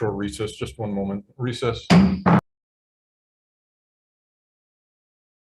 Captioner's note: gavel bangs